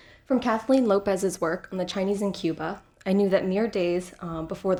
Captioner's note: none